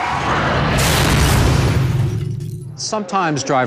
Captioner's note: metal crunching